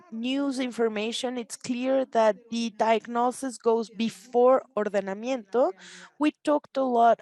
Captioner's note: speaks Spanish